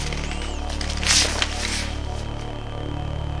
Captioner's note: sliding down vinyl